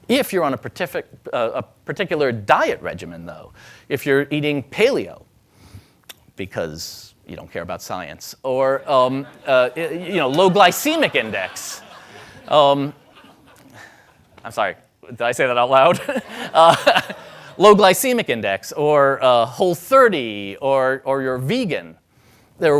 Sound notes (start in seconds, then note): 11.5 audience laughing; 15.8 laughing